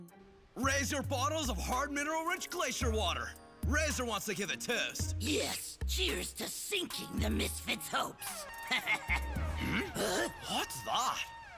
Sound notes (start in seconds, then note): 8.4 alarm blaring; 8.4 Razor laughing